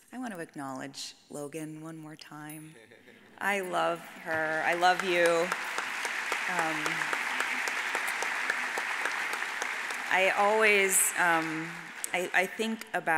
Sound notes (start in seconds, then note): 3.1 man chuckles; 5.7 audience applauds